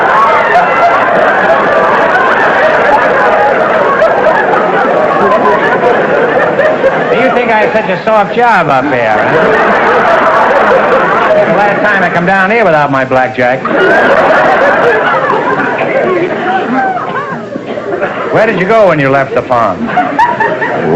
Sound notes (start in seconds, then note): 9.7 audience laughter; 13.6 laughter